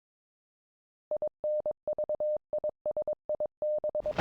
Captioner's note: beeping